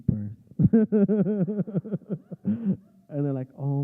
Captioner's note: laughter